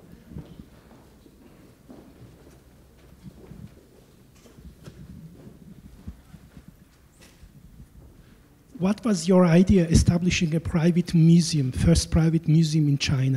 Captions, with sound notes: - [Voiceover] What was your idea establishing a private museum, first private museum in China?